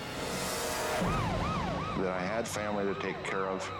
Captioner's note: sirens wailing